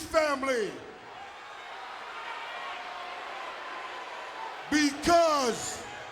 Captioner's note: audience booing